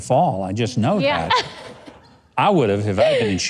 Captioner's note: giggles